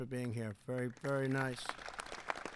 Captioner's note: applause